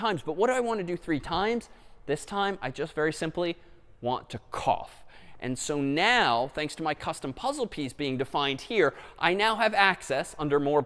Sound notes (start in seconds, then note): none